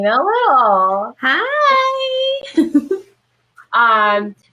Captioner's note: laughs